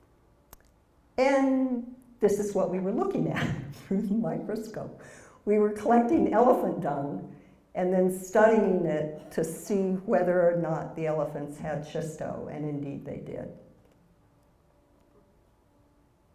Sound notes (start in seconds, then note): 3.6 laugh